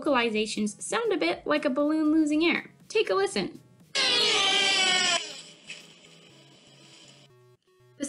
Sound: white Tail Buck Call

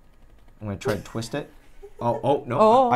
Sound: laughs

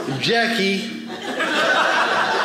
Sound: audience laughing

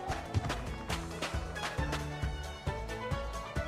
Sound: steps

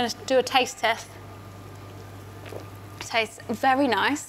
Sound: gulps

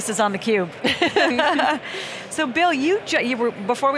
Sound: laughing

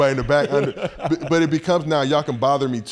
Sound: laughs

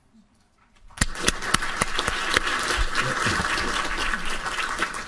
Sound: applauding

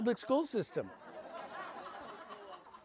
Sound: audience laughs

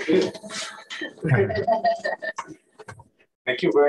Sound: indistinct conversation

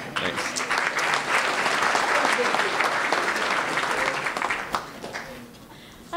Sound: applause

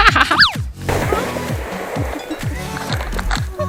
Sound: laughs

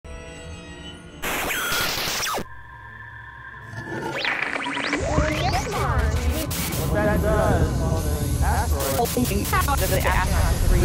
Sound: sound Effects

